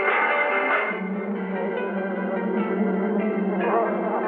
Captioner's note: bees buzzing; upbeat music playing